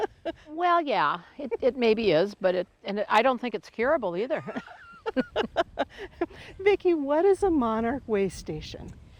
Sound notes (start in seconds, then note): 4.5 both chuckling